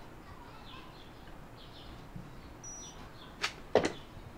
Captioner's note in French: bip!